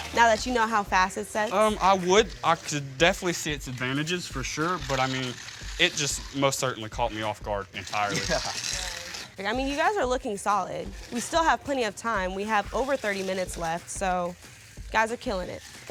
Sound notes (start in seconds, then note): 7.9 laughs